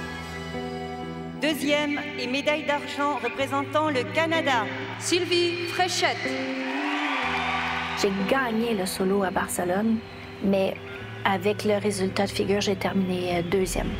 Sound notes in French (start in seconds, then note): 6.7 applaudissements